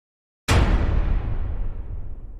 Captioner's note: thud